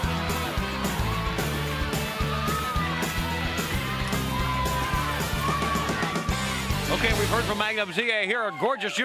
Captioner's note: crowd cheering